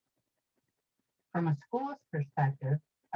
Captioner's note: recorded voice